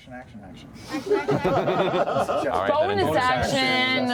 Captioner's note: laughter